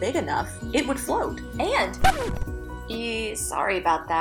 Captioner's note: sound of record screeching